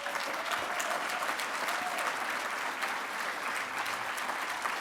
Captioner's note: audience applauding